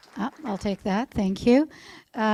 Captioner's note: applause